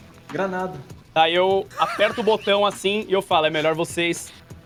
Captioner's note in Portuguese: Risada